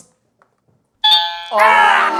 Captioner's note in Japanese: 正解音